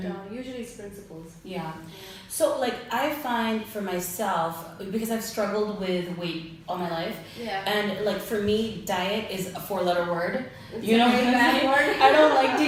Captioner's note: both laugh